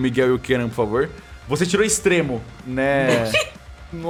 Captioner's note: nervous laughter